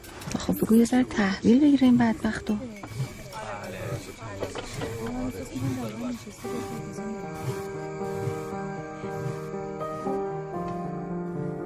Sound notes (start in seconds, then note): 1.8 roar of chatter; 6.4 cinematic music